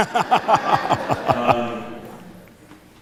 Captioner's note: brief laughter